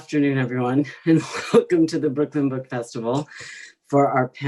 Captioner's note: laughs